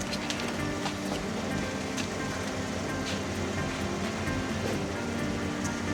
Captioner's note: car engine humming